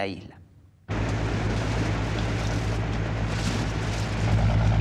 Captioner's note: ship engine rumbling